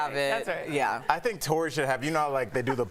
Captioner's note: laughter